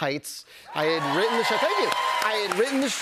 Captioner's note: cheers and applause